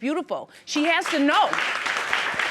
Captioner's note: audience applauding